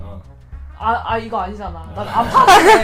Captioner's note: laughing